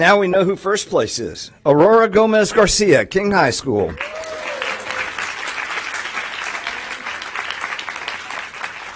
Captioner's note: applause